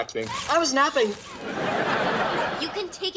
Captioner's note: audience laughs